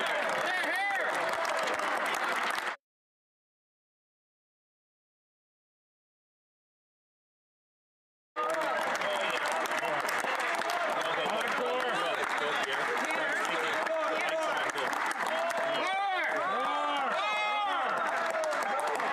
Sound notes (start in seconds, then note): 0.2 some Applause; 8.4 cheering